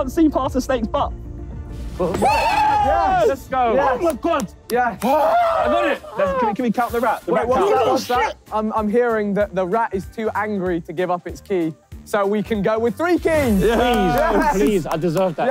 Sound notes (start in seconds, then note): 2.0 group cheering